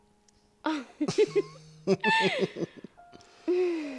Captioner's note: both laughing